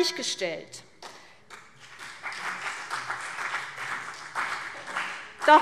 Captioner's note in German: Beifall CDU und vereinzelt BÜNDNIS 90/DIE GRÜNEN